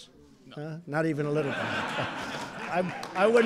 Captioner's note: laughter